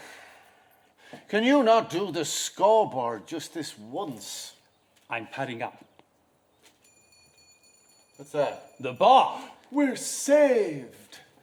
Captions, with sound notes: Can you not do the scoreboard just this once? -I’m padding up. [BELL TINKLES] -What’s that? -The bar! -We’re saved!